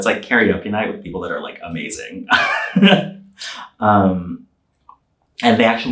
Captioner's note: laughing